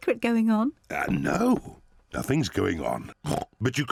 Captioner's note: oinks